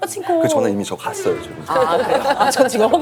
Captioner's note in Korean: 쌔앵